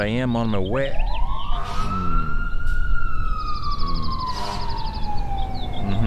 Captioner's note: fire engine passes in the distance